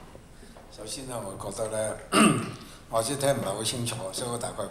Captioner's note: Cantonese